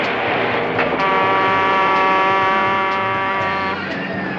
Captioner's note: honking